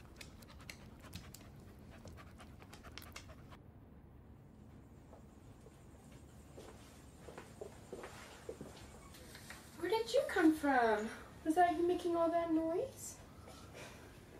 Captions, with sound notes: (dog panting) (shoes clacking) Where did you come from? Was that you making all that noise?